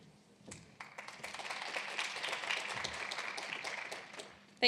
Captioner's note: applause